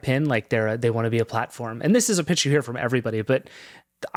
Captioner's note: none